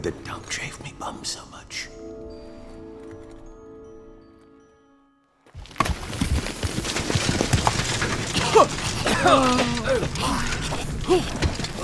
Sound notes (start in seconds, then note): 5.6 rubble rumbling; 8.8 coughing, moving debris aside